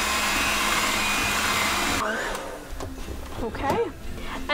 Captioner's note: mixer whirs